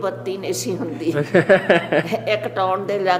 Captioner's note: laughs